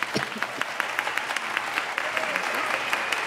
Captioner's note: applause